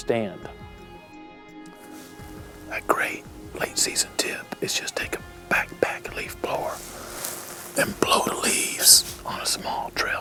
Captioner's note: whispering